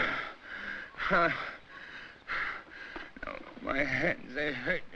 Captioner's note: Barney panting, groans